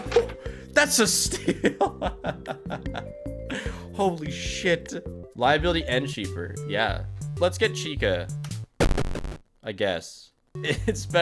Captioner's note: laughs